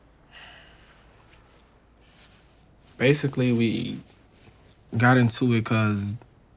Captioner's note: sighs